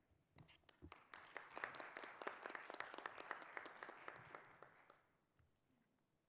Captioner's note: applause